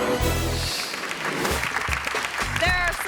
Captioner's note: audience clapping